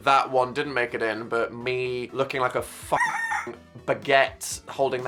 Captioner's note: rooster crowing